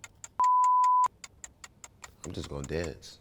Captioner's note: beep